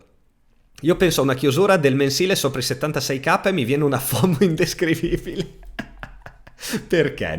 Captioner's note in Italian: risate